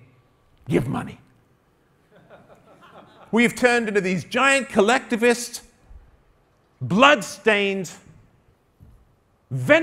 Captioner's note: one guy in crowd laughs